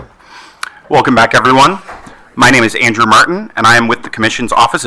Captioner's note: none